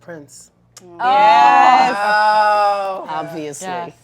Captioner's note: cheers